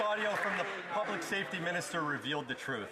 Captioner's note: some Applause